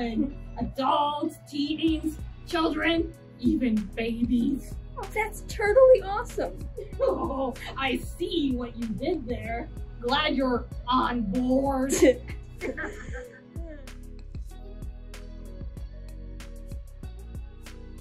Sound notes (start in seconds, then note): 12.6 laughing; 14.4 instrumental music plays